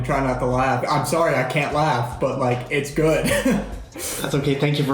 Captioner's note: chuckles